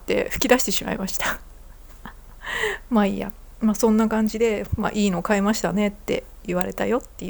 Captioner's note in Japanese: 笑い; 息をのむ音